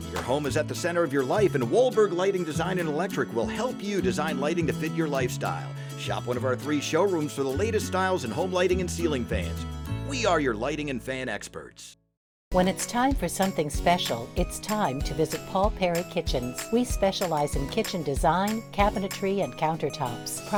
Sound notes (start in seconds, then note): 12.6 voiceover